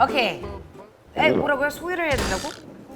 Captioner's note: gulp